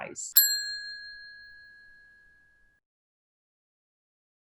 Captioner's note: bell rings